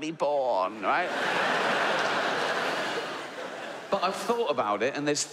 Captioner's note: audience laughs